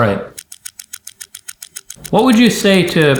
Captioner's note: clock ticking